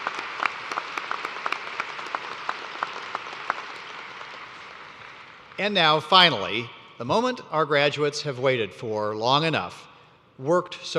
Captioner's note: cheers and applause